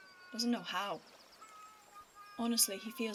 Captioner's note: cat still crying in the background